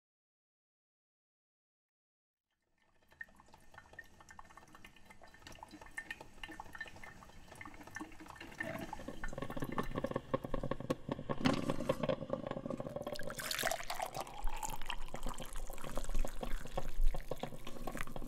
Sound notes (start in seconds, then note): 2.6 drip coffee maker percolating; 12.5 coffee pouring